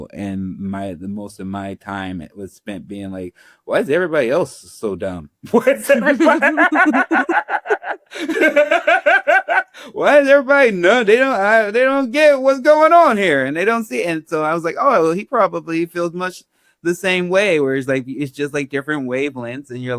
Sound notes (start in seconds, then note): 5.5 Ron Laughing